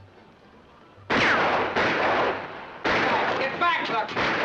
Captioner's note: music in distance; gunshots